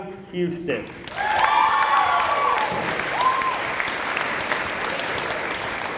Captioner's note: applause